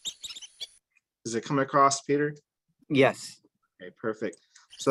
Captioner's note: peeping sound